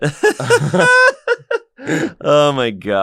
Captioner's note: more laughter